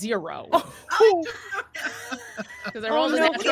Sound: all laughing

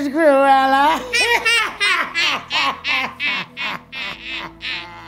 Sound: evil laugh

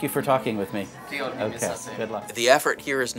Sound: speaks Georgian

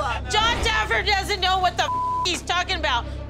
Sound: beeping

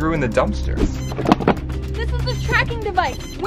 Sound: beeping noise

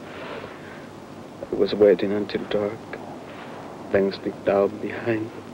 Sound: murmurs

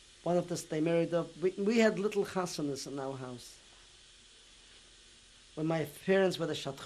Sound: non-english; non-english

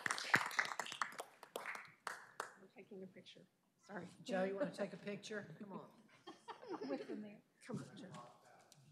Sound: applause

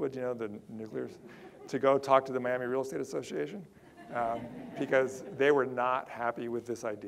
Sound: audience laughter

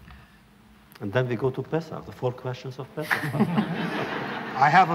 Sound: laughter

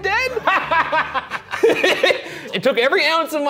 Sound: laughing

